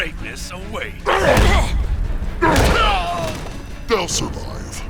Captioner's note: cries out